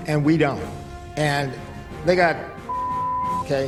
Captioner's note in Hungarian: Sípolás